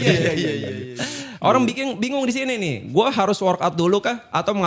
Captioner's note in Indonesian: tertawa